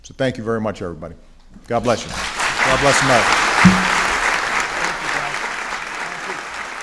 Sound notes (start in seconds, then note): 3.8 applause